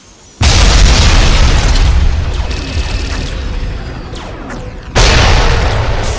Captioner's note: explosions booming; cannons blasting